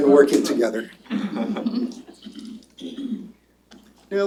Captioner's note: laughter